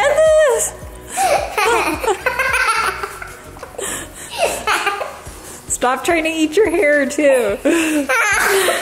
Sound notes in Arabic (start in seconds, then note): 1.1 تضحك بشكل هستيري